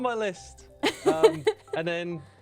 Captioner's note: laughs